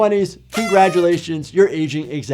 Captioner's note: party horn blares